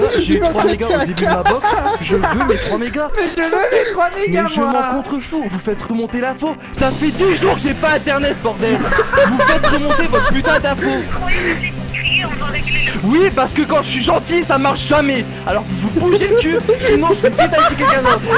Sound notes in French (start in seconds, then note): 0.0 rire; 4.2 pleure; 8.6 rires; 18.1 rires